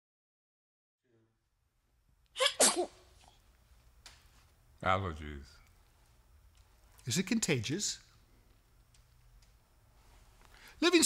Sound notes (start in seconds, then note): 2.4 comical sneeze